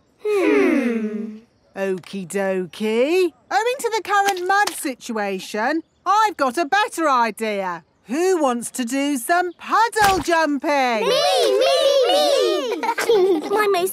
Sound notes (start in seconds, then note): 11.1 laughing